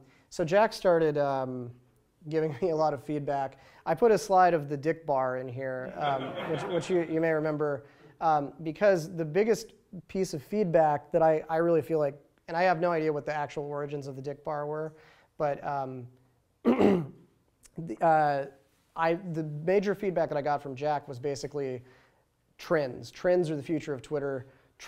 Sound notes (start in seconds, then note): 5.8 laughter